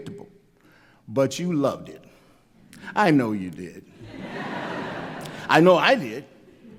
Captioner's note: laughter